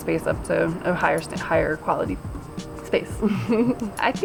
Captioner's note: chuckles